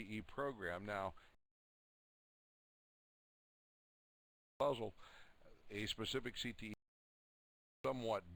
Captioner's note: audio drops